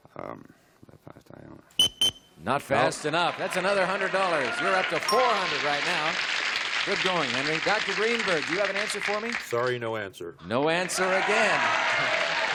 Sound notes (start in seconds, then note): 1.8 beeps; 7.8 applause